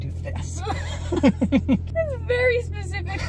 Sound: laughing

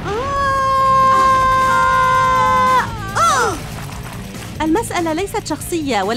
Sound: running

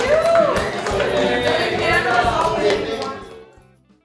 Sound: applause

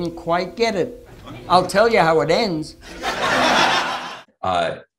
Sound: audience laughter

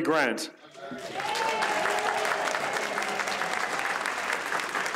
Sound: audience cheers

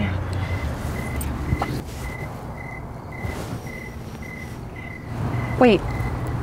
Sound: crickets

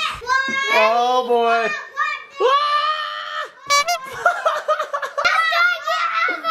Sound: screams

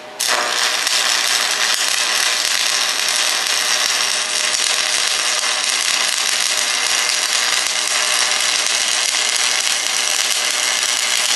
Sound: welding

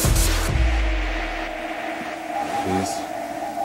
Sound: sound fades away, gentle beeping

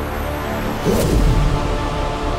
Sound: whooshing sound

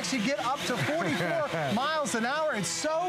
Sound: laughter

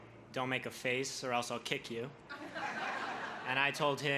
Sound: crowd laughs

